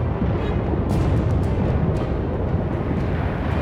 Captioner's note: gunfire